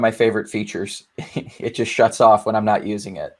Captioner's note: laughing happily